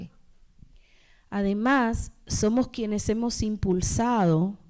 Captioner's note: speaking spanish